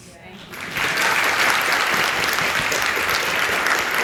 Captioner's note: audience applauds